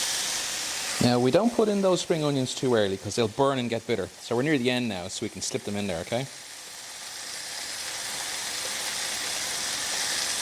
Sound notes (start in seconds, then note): 7.4 sizzling; 10.1 sizzling